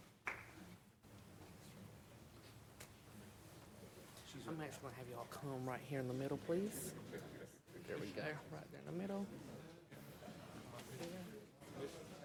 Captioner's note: applause